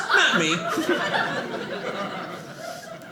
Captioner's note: audience laughing